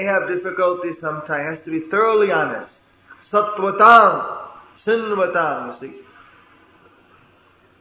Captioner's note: bell rings